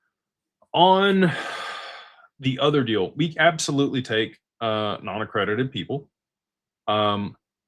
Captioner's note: sighs